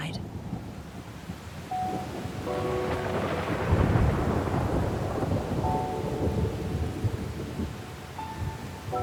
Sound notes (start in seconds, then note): 0.1 thunderstorm noises; 3.6 sad music playing